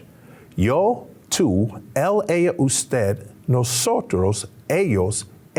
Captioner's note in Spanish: Señor hablando en lengua extranjera